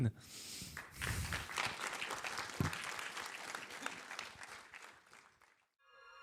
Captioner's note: applause